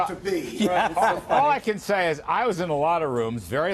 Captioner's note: laughter